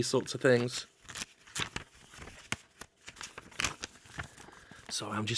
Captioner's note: book pages crumple